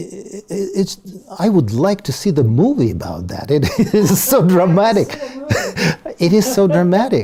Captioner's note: laugh